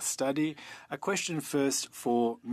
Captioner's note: speaking French